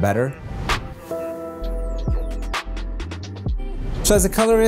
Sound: whoosh sound; gentle beats; whoosh sound

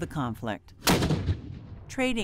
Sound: cannon fire

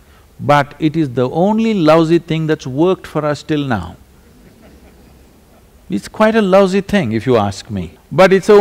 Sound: few laugh

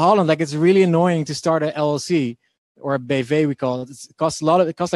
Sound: speaking in foreign language

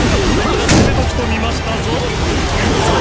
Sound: slam

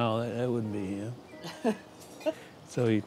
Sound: laughs

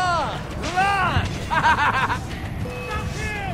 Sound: guard laughs

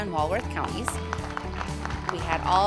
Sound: crowd applauding

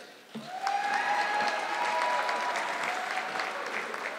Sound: audience clapping

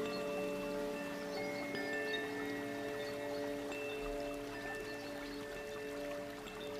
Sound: bells lightly chiming; water babbling

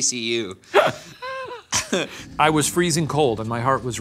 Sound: laughing

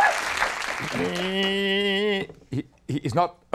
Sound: imitates fiddle

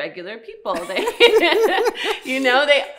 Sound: laughing

